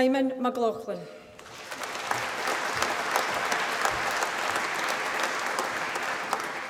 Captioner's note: applause